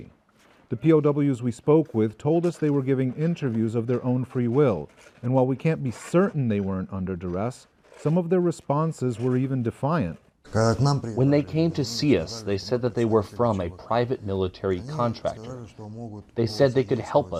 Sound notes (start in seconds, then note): 10.5 through translator